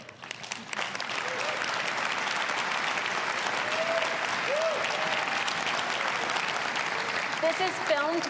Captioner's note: applause